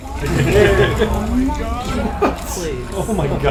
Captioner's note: laughs